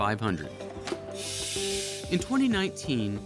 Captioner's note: compressed air hissing